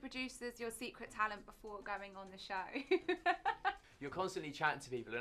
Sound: laughs

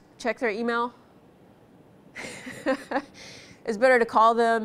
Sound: laughs

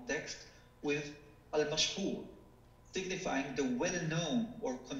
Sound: speaking foreign language

